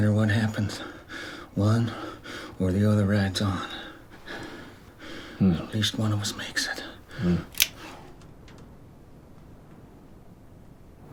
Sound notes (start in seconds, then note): 5.1 gun clicks